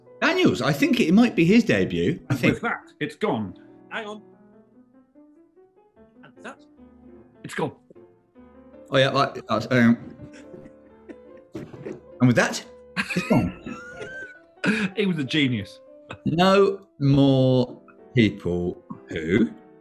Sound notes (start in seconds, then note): 13.4 sniggering